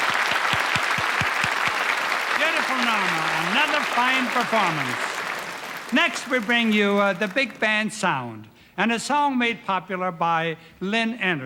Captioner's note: applause